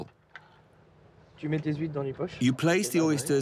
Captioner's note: speaking in foreign language